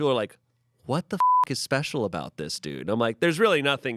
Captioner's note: beep